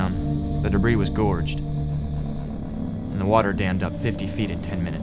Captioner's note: voiceover